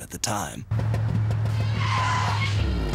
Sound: tires screeching

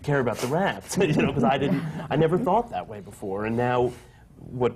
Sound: laughs

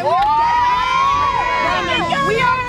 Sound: team cheering

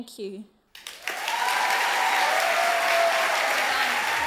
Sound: audience cheer and applaud

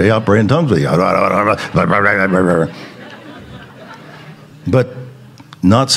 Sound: speaking in tongues

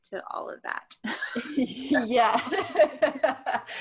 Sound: laughs

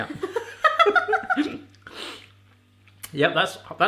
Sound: both laughing

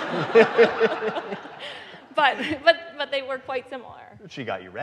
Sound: audience laughing

